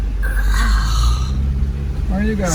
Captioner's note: grunts